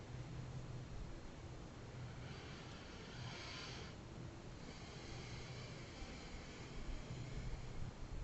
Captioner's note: inhales